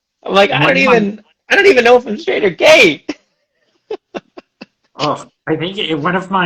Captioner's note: laughs